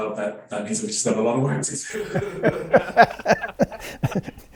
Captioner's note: laughing; laughs